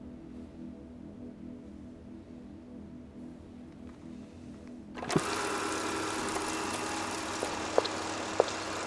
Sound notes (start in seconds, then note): 4.9 film reel whirring